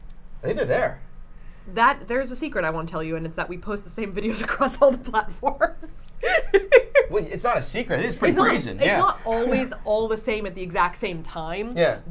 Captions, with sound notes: - I think they're there. - That, there's the secret I wanna tell you. And it's that we post the same videos across all the platforms. (laughing) - It's not a secret. It is pretty brazen. - It's not always all the same at the exact same time,